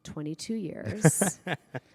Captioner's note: laughter